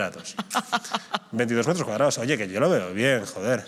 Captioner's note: she laughs